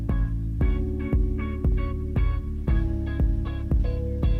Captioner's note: none